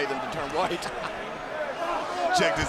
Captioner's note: Michael laughs